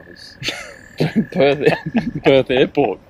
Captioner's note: interviewer laughs